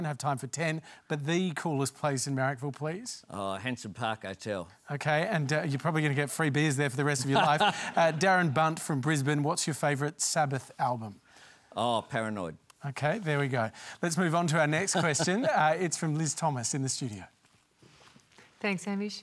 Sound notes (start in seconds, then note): 7.2 laughs; 14.8 laughs